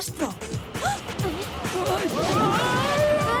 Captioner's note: gasps